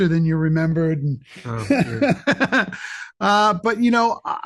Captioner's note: Michael laughs